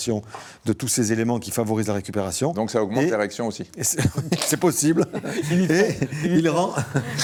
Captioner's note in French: rires